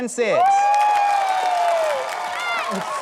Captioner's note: cheering, applause